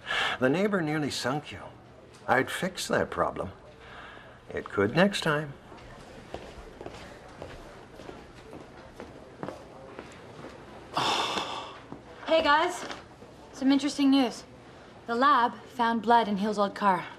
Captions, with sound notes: THE NEIGHBOR NEARLY SUNK YOU. I’D FIX THAT PROBLEM. IT COULD NEXT TIME. [ Heavy sigh ] HEY, GUYS, SOME INTERESTING NEWS. THE LAB FOUND BLOOD IN HILL’S OLD CAR...